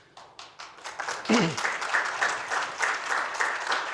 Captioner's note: applause